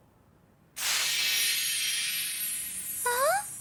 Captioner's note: magic chiming